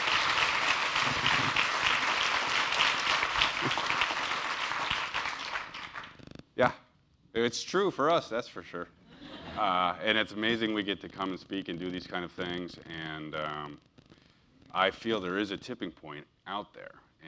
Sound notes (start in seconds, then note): 0.0 laugh; 0.0 applause; 9.2 laugh